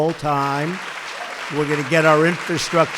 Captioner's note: applause